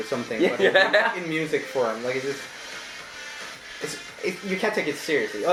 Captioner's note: laughing